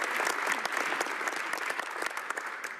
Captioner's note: speaking French